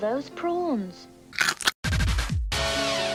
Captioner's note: crunch